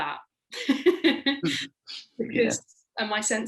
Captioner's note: laughing